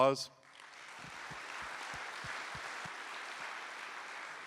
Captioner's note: applause